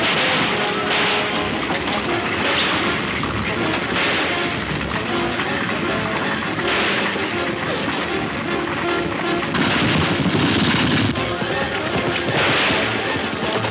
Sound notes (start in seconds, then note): 5.1 gunshots banging; 10.6 gunshots banging